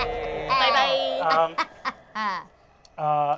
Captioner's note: Fig laughs